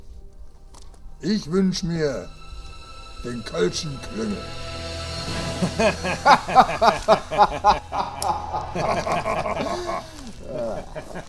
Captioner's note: laughter